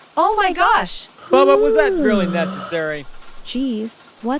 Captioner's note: yawning